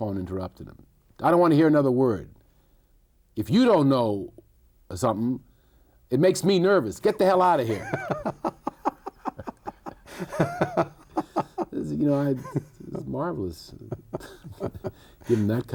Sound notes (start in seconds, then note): 7.5 both laughing; 14.6 chuckles